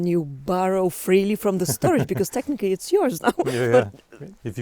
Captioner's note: laughs